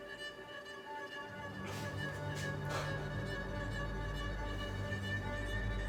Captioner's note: whimpers